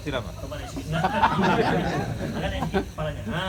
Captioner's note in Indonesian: Jama'ah tertawa